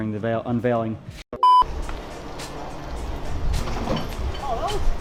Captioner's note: beep